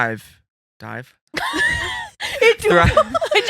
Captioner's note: laughing